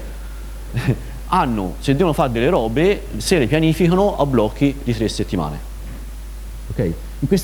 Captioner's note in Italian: risata